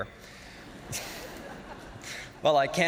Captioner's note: audience laughing